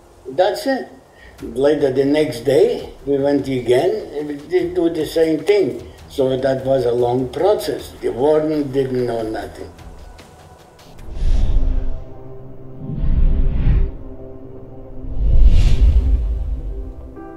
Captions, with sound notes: That's it, later the next day we went again, and we do the same thing. So that was a long process. The warden didn't know nothing. (scene whooshing) (soft gentle music)